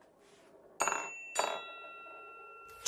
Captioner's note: ting